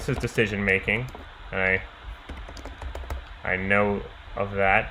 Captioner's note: keyboard clicking